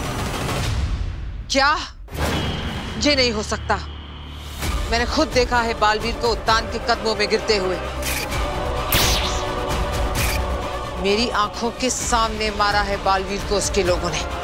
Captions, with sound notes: What? This can't be possible. I've seen Baalveer falling onto Uttan's feet. [sound effect playing] Baalveer got killed by his men in front of me.